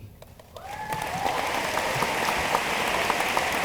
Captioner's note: room applauds